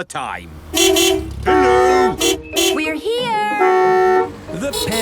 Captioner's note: beeping